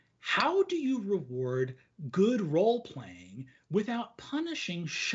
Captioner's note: none